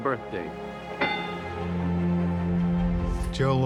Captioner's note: bell rings